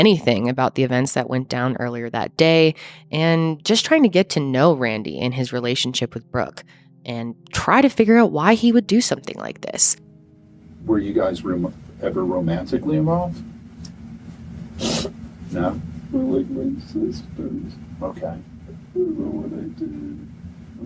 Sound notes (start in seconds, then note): 7.1 speaking faintly